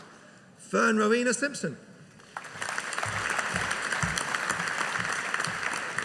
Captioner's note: audience applauding